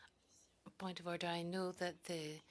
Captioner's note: speaking French